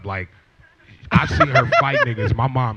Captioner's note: laughter